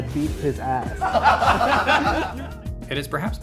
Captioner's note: laughing